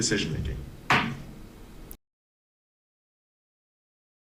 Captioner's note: gavel thumps